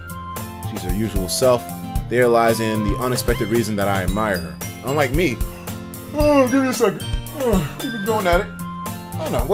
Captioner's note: yawn